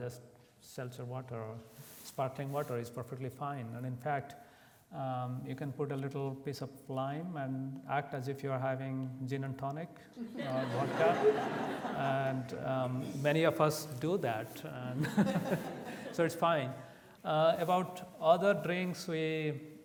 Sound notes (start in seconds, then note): 10.3 audience laughs; 14.0 laughs